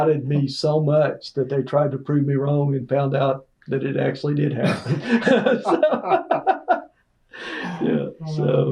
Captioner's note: laughter